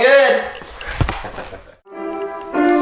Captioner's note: laughing; piano music